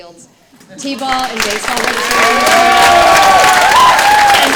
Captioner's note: audience clapping